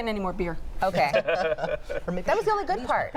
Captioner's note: laughs